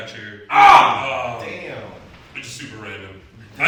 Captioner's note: shouts